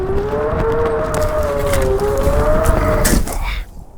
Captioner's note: branches breaking